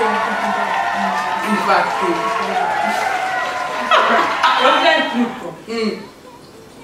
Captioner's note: applause